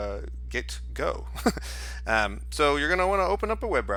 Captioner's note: chuckles